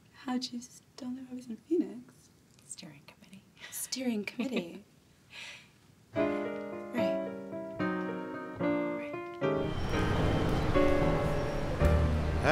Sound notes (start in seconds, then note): 7.7 jazz music playing; 9.6 traffic sound